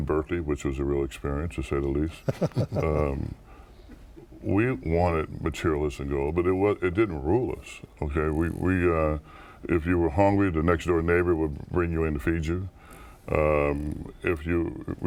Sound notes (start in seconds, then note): 2.2 laughter